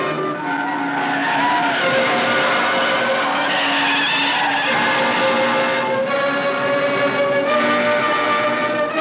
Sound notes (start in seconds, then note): 3.0 tires screeching